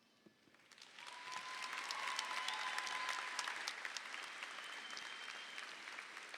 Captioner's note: audience applauds; audience cheers